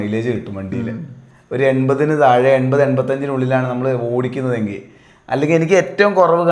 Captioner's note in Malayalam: തൊണ്ട ശരിയാക്കുന്നു